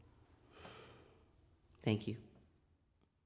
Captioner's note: exhales